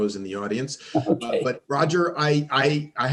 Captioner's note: chuckles